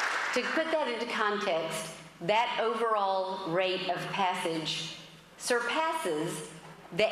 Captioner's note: applause